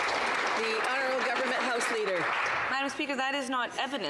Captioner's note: some Applause